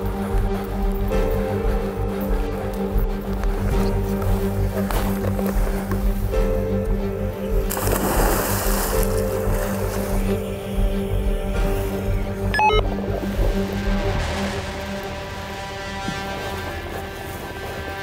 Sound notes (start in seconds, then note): 0.1 nervous music; 7.5 water splashing; 12.5 radio beeping